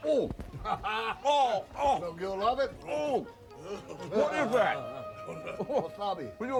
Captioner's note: laugh